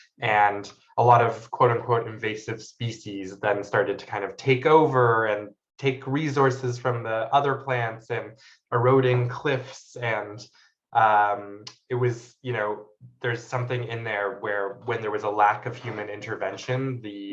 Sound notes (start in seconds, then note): none